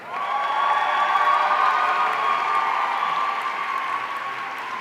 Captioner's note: audience cheering